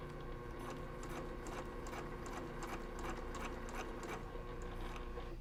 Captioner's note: sewing machine whirring